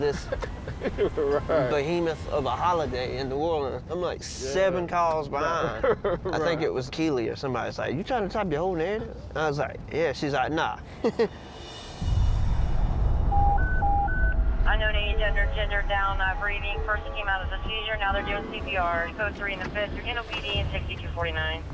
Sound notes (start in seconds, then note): 13.2 beeping